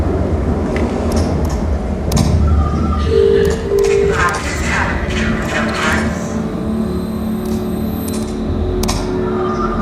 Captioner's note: clicking; phone noise; clicking